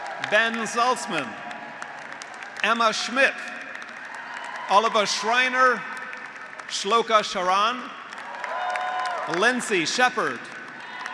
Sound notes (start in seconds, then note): 0.0 graduates applauding; 0.0 graduates cheering; 2.1 graduates applauding; 2.1 graduates cheering; 4.1 graduates applauding; 6.1 graduates applauding; 8.1 graduates cheering; 8.4 graduates applauding